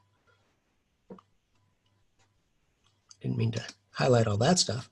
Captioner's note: mouse clicking